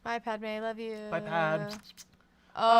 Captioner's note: kissing sounds